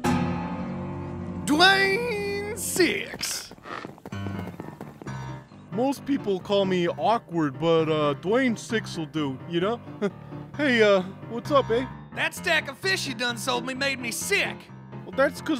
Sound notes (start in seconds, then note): 10.0 laughs